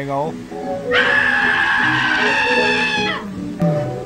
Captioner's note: screaming; yawn